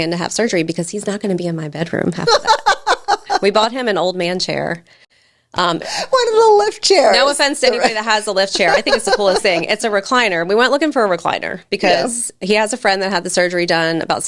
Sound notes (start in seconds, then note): 2.2 laughing; 7.2 laughs